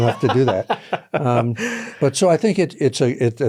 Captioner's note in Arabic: يضحك